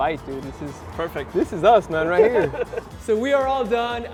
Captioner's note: laughs